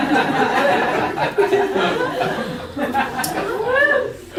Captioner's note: laughter, whooping